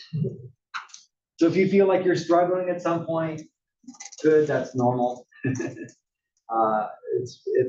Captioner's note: laugh